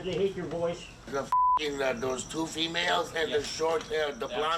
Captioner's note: beep